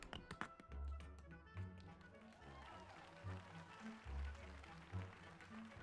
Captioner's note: rapid Tapping; bright music; audience applauding